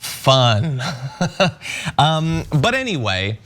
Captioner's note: laugh